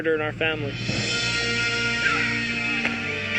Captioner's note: meowing